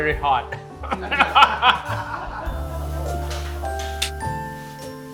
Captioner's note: laughs; crew laughs; calm music